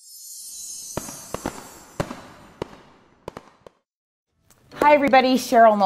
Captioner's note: fireworks popping